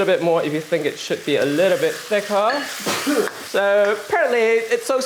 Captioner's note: sneeze